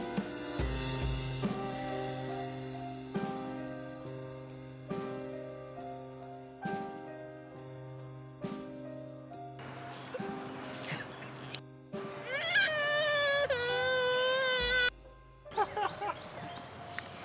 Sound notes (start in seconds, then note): 12.1 crying